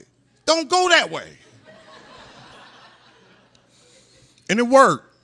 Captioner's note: laughter